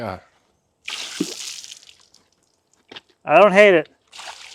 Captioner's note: water splashing